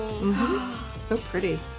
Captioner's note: gasps